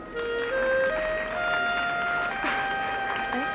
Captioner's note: applause